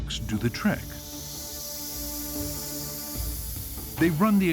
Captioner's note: air hissing